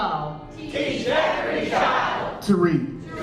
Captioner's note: crowd